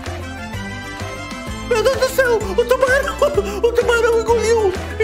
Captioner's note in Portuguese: risos